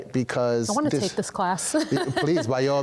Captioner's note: interviewer laughs